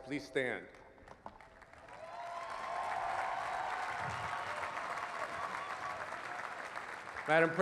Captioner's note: cheering